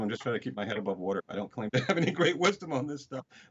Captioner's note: chuckles